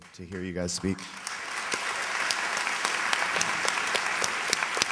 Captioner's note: applause